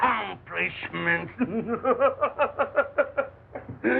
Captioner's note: laughs wildly